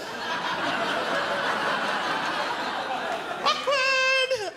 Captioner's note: crowd laughs